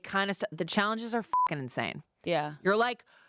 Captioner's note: beep